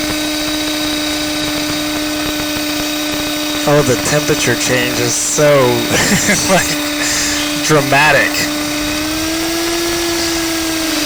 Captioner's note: laugh